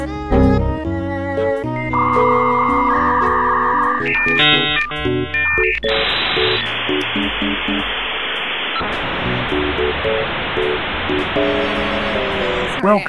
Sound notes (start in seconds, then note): 0.2 blue screen of death sound; 1.9 dial up modem sounds